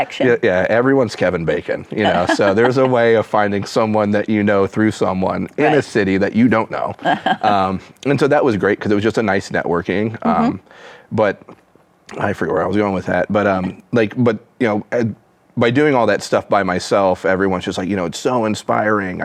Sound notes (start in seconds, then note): 2.0 laughs; 7.0 chuckles